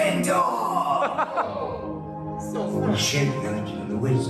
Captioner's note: laughing